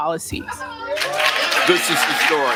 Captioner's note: applause